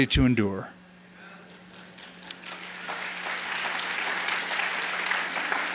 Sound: applause

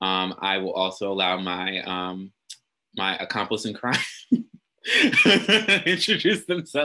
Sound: laughs

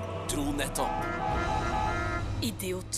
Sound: horn honking

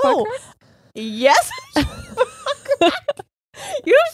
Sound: squealing; both laughing

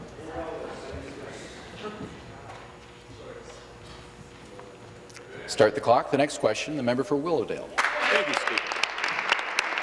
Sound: conversation din

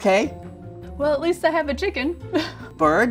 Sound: laughs

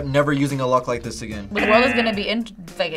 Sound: buzzer rings

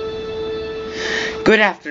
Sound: inhales

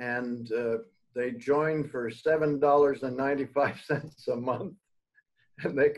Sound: laughs

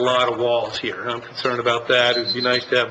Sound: alarm beeps

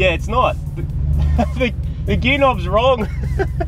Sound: laughs

